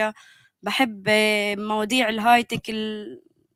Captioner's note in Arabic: لغة أجنبية